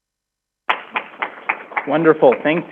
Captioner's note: crowd applauding